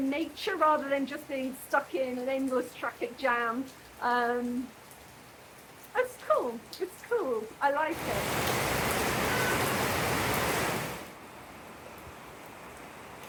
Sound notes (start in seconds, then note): 8.5 loud rain